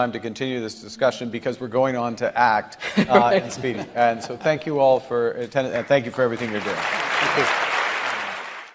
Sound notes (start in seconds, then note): 5.7 audience applauding